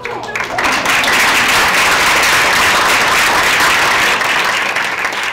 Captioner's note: audience applause